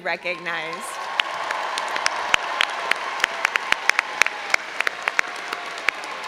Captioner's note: all applauding and cheering